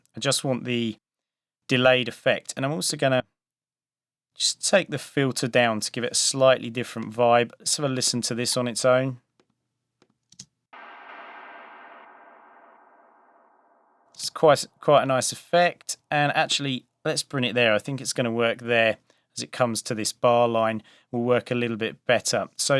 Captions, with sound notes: I just want the delayed effect. And I'm also going to just take the filter down to give it a slightly different vibe. Let's have a listen to this on its own. [crash sound] It's quite a nice effect. And actually, let's bring it there. I think it's going to work there. As it comes to this bar line, it will work a little bit better.